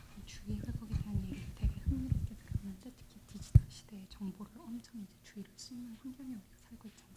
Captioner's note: translator speaking in Korean